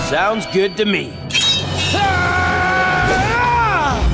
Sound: yelling

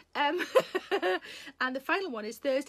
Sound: Sarah laughing

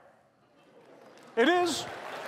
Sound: laughter and applause

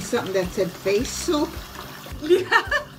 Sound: laughing

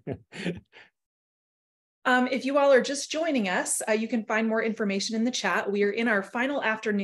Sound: laughter

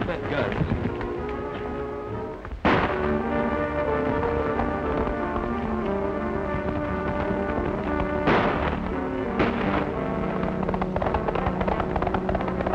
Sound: gunfire

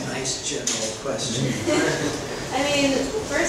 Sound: group laughing

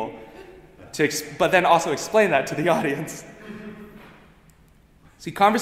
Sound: giggling

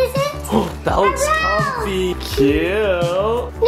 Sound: gasps

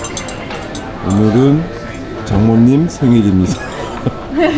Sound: laughing

